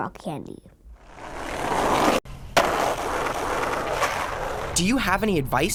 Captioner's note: skateboard grinding